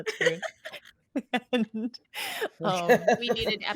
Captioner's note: laughs